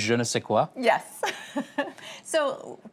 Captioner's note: laughter